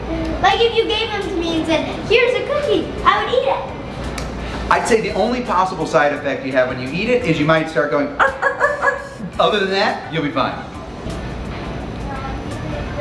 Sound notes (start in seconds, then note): 8.2 imitates dog barking